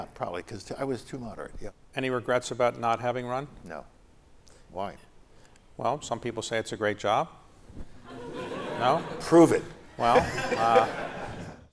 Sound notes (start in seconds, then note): 10.0 laughter